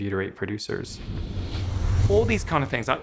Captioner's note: whooshing